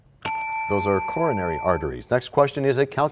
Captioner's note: bell rings, time expires